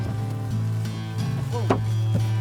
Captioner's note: bangboard thumps